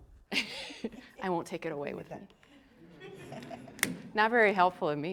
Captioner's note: laughing